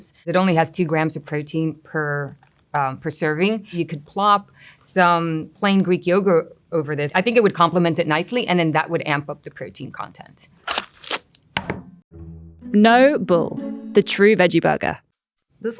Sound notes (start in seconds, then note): 10.6 packaging rustling; 10.6 patty thudding